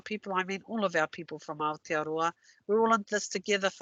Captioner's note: non-english